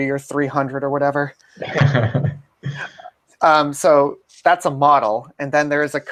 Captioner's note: laugh